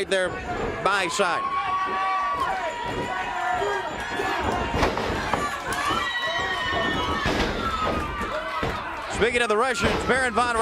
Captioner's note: crowd cheering